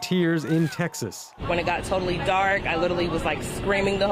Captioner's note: cheers and Applause